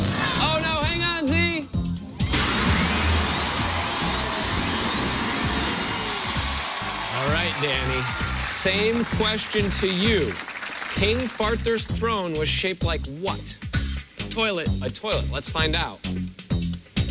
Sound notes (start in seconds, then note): 0.0 farting noise; 2.3 steam hissing; 3.4 cheers and applause